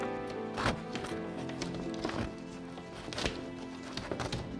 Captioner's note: scratching